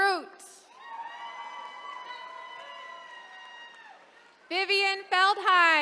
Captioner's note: attendees cheering